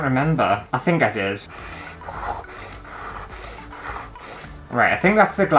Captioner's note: pen Scraping On Canvas